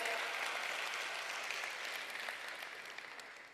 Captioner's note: applause